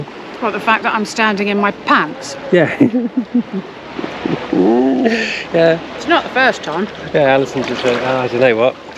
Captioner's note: laughter